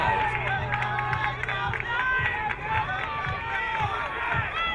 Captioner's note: crowd cheering